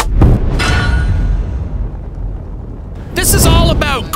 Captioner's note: metal clanks